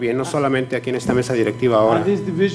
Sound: speaking foreign language

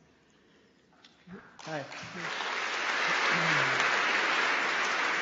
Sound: applause

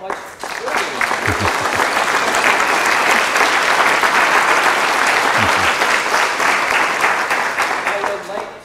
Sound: applause

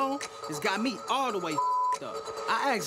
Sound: beep

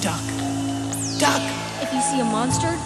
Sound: spider whistling

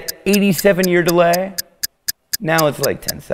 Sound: ticking

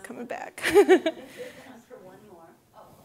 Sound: laughing

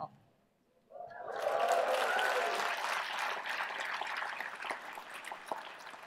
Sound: applause

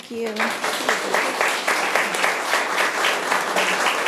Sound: room applauds

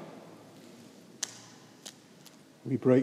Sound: Eucharist wafer snapping

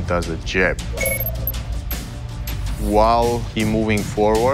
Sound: electronic beeping

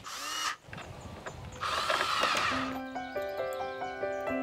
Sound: drill whirring; bright music

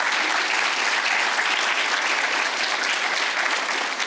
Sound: audience applauds

